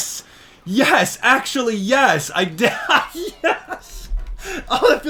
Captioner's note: laughs